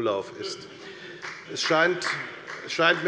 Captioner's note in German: Beifall